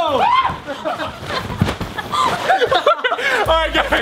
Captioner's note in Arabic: الضيوف يضحكون